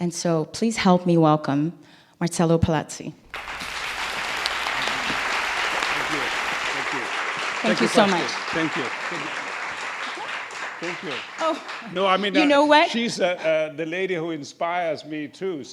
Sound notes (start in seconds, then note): 5.6 applause